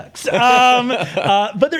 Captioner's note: chuckles